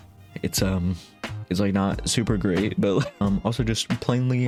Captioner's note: laughing